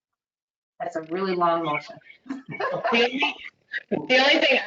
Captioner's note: laughs